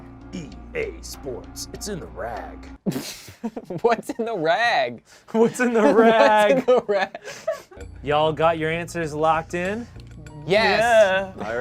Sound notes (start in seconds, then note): 2.8 laughs